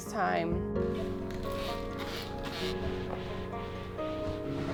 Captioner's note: bottle sprays